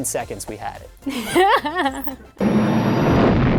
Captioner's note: laughing